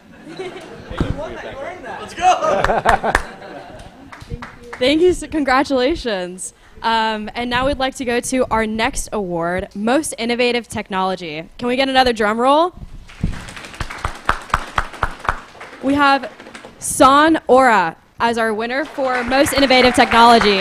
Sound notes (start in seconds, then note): 0.0 laughter; 13.1 applause